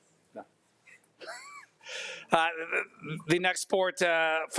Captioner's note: laughs